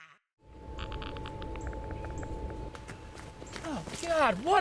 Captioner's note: monitor clicking